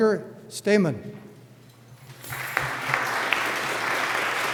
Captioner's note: applause